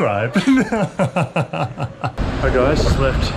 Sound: laughter

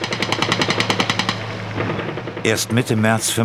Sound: Schüsse

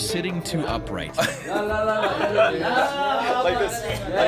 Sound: laughs

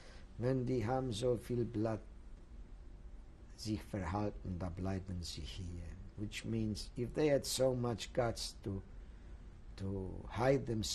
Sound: german

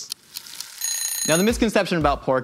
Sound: timer dinging; timer ticking

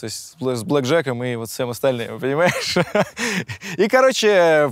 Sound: laughs

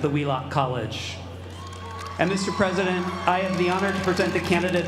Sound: applause

